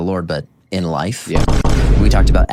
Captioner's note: vine boom x2; 3 big booms